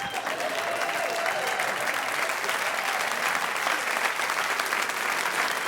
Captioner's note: audience applauding